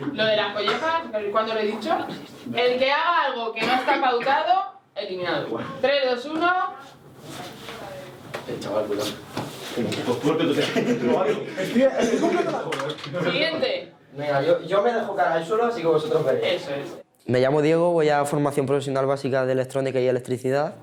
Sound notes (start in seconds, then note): 10.5 Risas